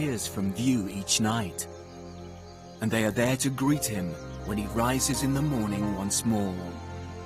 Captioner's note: birds chirping; gentle music continues